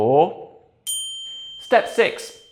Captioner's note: bell ringing